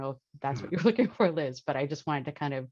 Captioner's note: chuckles